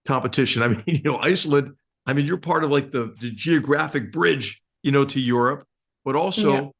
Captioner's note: laugh